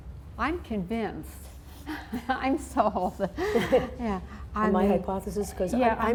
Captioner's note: laughs